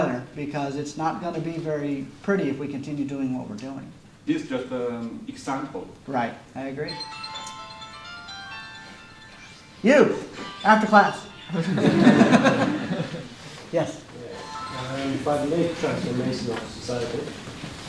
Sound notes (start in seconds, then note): 11.6 laughter